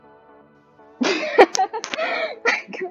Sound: laughs

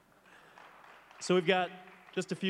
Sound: applauds

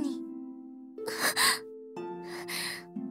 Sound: gasp

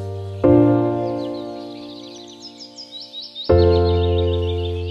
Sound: upbeat music; birds chirping

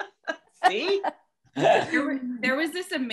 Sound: laughs

